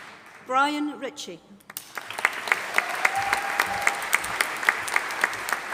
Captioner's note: audience applauding